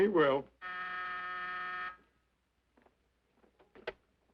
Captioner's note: buzzer ringing